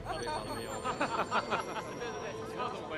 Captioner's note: all laugh and chatter